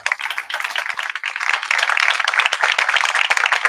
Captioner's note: applause